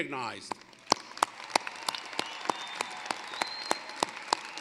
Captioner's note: cheering, applause